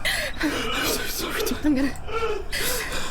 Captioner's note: whispering